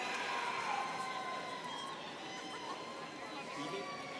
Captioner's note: students cheering